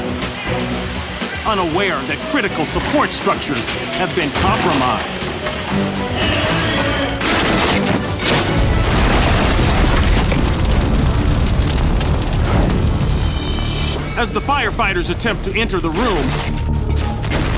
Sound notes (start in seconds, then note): 6.1 glass shatters